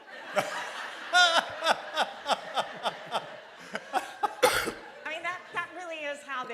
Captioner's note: laughter